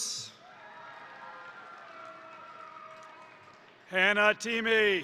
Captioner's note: crowd cheering; crowd applauding